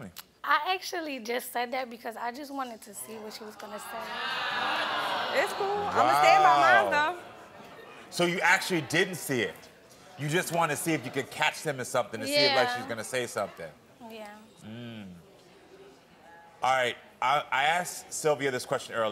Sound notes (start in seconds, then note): 3.2 audience clamors